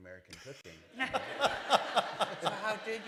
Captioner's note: laughter